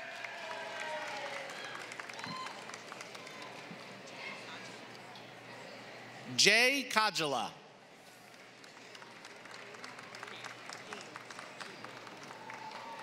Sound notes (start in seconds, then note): 0.0 applause; 8.2 applause